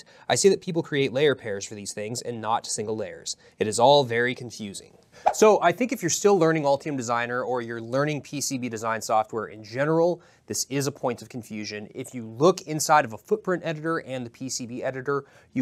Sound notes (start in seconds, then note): 5.2 air whips